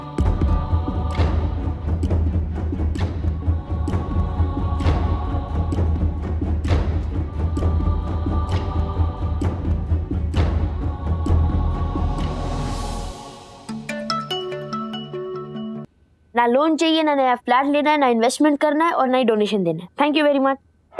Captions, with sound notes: [somber music] [phone ringing] Neither do I want a loan or a new flat, nor do I want to make a new investment or donation. Thank you very much.